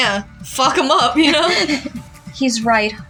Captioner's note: chuckle